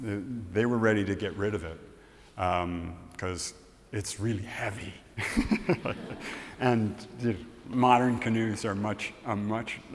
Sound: laughs

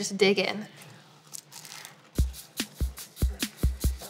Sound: crunching sound

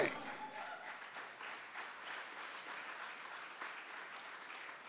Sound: audience applauding

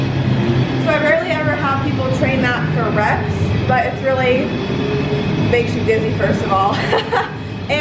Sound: lols

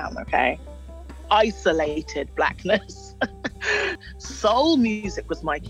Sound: chuckles

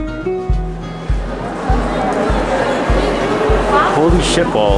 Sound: crowd chattering

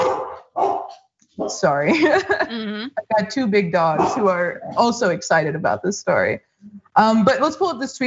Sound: laugh

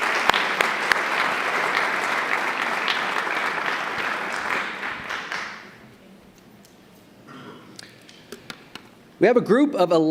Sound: applause

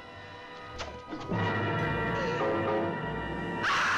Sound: door opening; dramatic music; hysteric screams

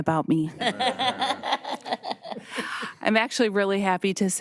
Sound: audience laughing

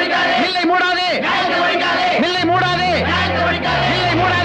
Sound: slogan shouting continues

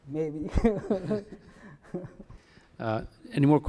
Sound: chuckles

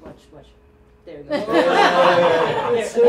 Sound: laughter

